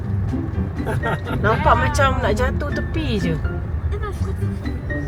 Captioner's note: laugh